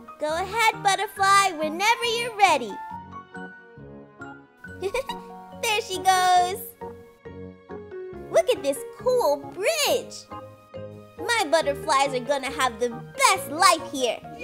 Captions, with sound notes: Go ahead butterfly, whenever you're ready! (LAUGHS) There she goes! Look at this cool bridge! My butterflies are gonna have the best life here!